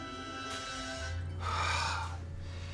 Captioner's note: deep sigh